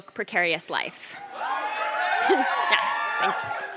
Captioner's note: cheers